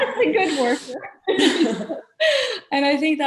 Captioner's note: laughing